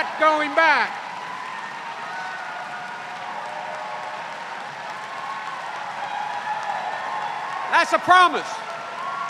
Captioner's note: cheers and applause